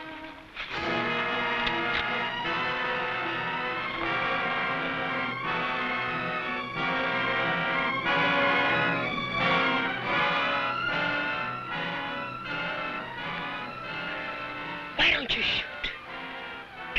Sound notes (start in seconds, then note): 1.5 rifle cocking; 4.0 tense music